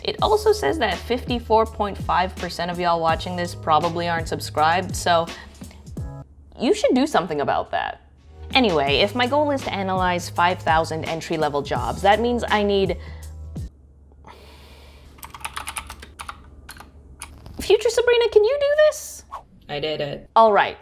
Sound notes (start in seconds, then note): 13.9 sighs; 15.2 keyboard clatter